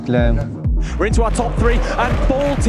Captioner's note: commentator 2 in English